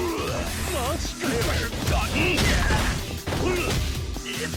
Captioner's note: goon grunting